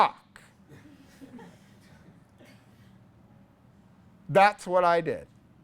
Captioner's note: class laughs